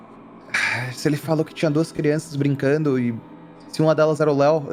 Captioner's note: sigh